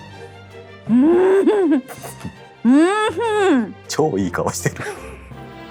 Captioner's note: delighted mumbling